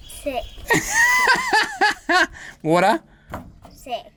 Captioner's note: laughs